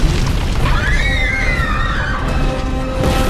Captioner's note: explosion; scream